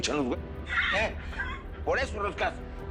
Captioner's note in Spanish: Risas